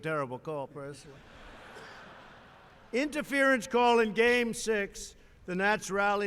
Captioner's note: laughter